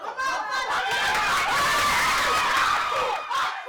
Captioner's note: cheering